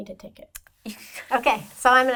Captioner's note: laughs